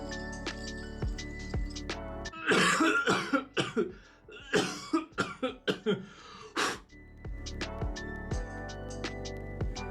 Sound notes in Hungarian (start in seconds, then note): 2.3 Köhögés hallatszik